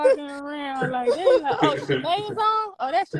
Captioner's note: laughing